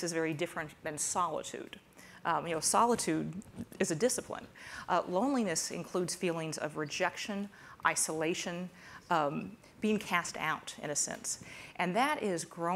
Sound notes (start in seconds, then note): none